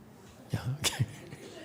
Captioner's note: laughs